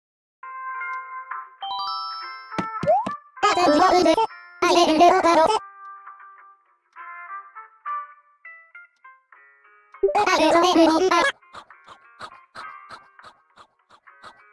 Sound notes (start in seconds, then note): 1.5 surprise sound; 2.5 footsteps